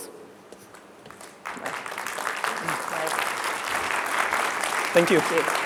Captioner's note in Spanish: audiencia aplaudiendo